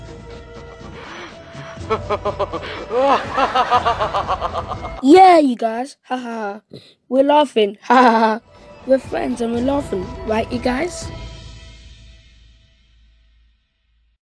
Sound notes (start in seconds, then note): 0.7 evil Laugh; 6.2 laugh